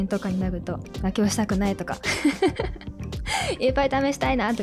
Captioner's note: laughs